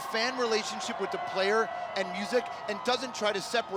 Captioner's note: cheers